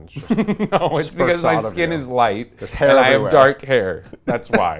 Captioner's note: laughs